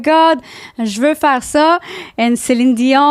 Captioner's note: in french